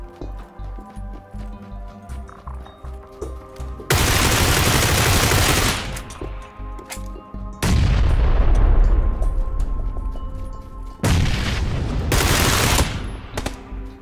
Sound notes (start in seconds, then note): 3.9 shooting; 7.6 Explosion by Frag; 11.1 Explosion by Frag; 11.1 shooting; 13.2 shots